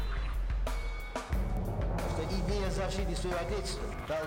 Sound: russian dialogue

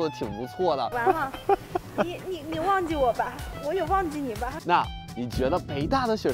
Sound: speaking in foreign language

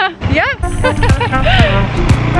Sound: laughter

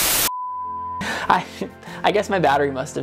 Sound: tv static; flat beep tone

